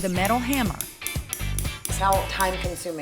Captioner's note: hammering